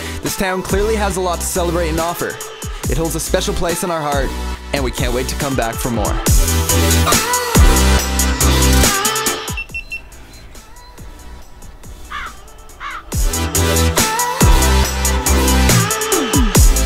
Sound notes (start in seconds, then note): 6.9 electronic music; 9.4 digital beeping; 10.7 crows cawing